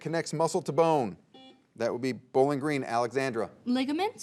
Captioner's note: buzzer beeps